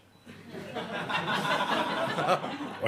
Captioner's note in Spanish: Risas